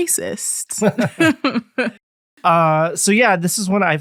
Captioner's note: both chuckling